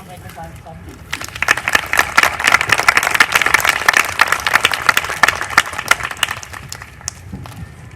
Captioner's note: applause